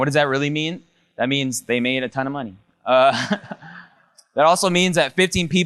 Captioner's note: laughs